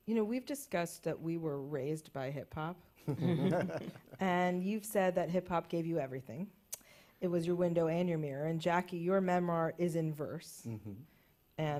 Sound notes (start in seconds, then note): 3.0 laughter